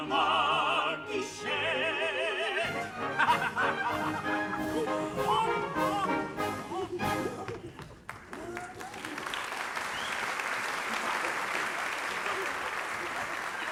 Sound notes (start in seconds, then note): 2.3 all laugh; 7.8 applause